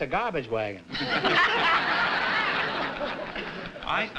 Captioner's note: laughter